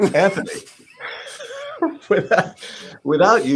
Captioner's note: laughs